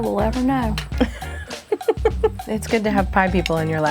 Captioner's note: laughing